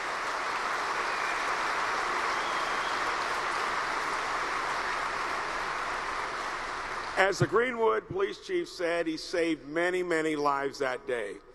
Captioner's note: applause